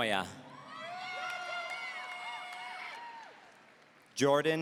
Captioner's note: audience cheering